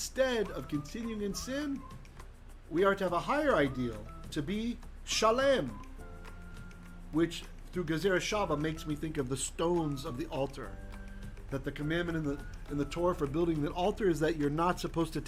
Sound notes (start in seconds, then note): 4.6 Hebrew